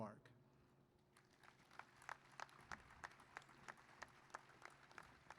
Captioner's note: applause